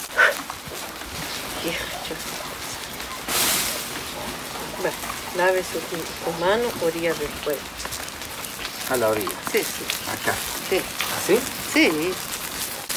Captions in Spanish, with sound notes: (sopla fuerte) (hablando en idioma K'iche') va, lave sus manos a la orilla del fuego a la orilla? si asi? si